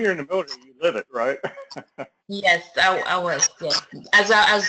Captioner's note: laugh